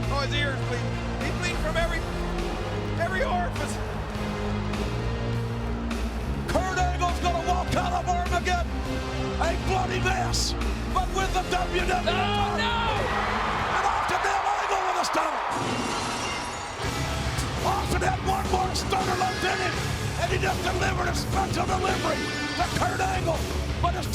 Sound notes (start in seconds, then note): 15.6 glass shattering; 15.6 rock music